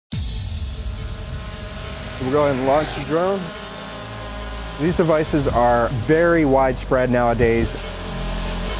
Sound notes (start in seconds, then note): 0.0 electronic music; 4.0 drone buzzing